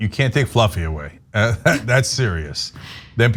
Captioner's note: laugh